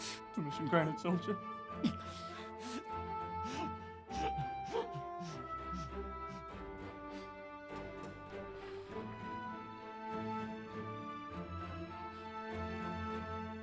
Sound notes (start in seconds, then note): 4.0 Dale gasps for air; 10.0 gasping stops